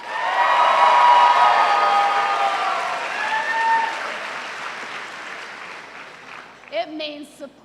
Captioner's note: cheers and applause